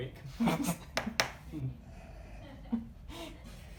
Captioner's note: laughs